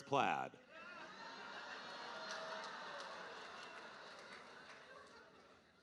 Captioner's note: audience cheering